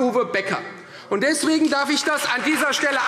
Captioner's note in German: Beifall Freie Demokraten